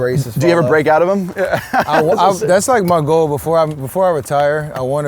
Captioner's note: laughs